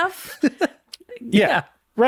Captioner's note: chuckles